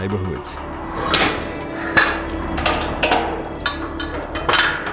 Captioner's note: metal clanking